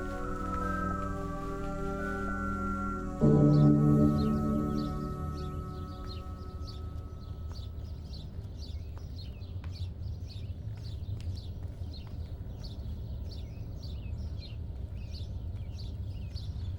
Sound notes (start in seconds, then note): 3.4 morning birds chirping